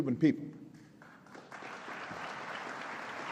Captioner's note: applause